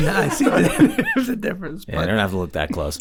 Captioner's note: group laughs